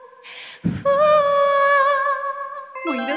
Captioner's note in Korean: 후우